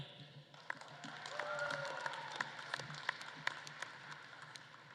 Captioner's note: audience claps and cheers